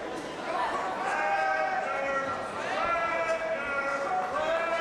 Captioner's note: crowd yells